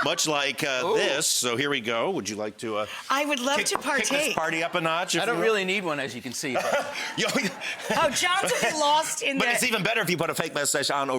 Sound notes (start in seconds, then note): 6.5 laughs